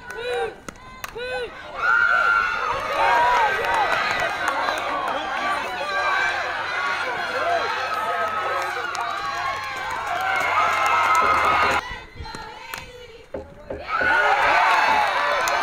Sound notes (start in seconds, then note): 1.8 crowd cheering